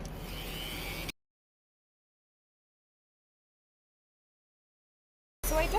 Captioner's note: dremmel winds up, audio is muted